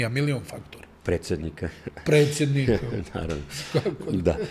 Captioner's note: laughing